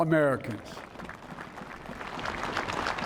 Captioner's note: cheering and applause